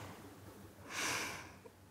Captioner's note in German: seufzt